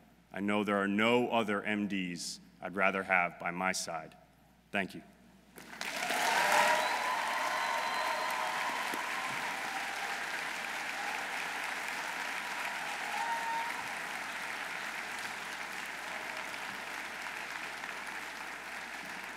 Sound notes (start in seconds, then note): 5.9 audience applauding; 5.9 audience cheering